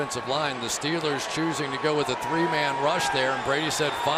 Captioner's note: crowd cheering